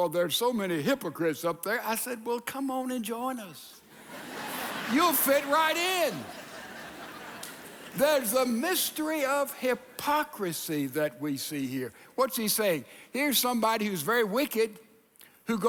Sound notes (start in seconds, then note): 6.7 audience laughing